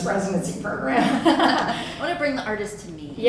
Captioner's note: laughter